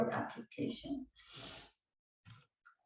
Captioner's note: sniff